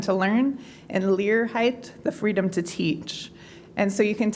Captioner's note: non-english